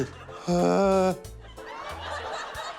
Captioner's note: groans; laughter